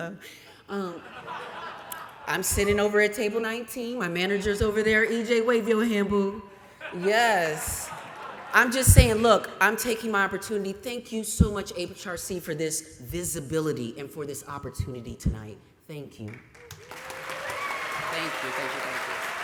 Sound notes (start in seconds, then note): 0.8 laughter; 16.2 applause